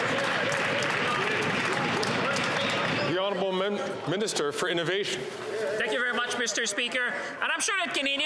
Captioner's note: some Applause